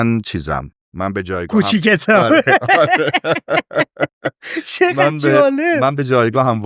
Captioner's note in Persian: خنده